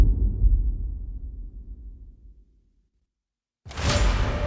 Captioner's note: dramatic sound